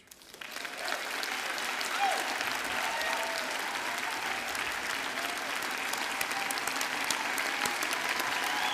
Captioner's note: applause